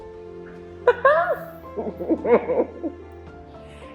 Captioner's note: laughing